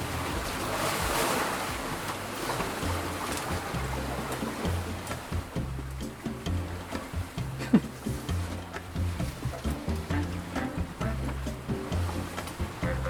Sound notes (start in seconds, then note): 3.6 bongo music; 7.5 man laughs; 10.1 bongo music